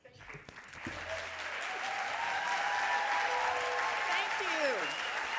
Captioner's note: audience applauding and cheering